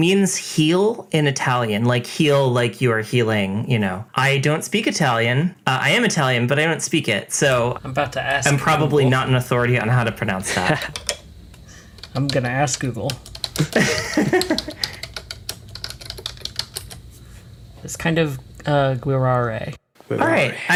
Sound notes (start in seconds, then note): 9.7 keyboard clacking; 13.5 laughs; 15.1 keyboard clacking